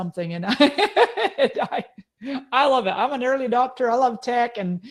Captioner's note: laughing